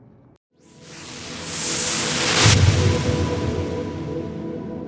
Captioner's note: wooshing